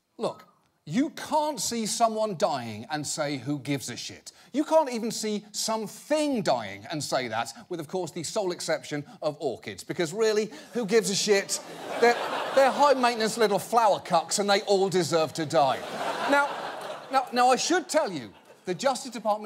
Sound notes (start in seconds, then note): 15.5 audience laughing